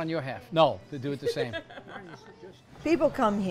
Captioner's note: laughs